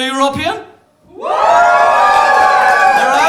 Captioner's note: cheering